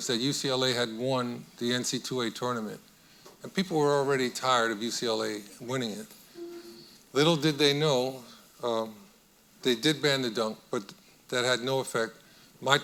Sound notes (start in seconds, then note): none